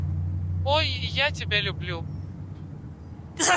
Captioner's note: machine voice: oh, I love you too